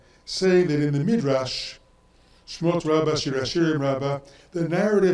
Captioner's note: speaks in foreign language